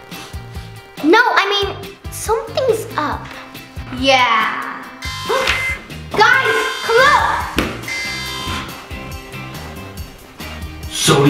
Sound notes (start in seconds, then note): 0.0 sniffing; 5.0 alarm buzzing